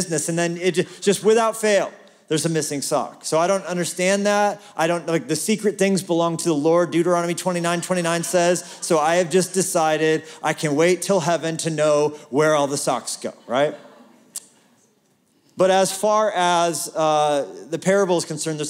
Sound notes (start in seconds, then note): 13.3 laughter